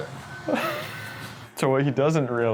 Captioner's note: laughing